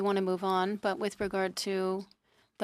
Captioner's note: speaking in French